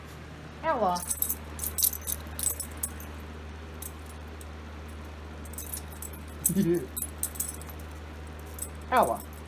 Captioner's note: laughs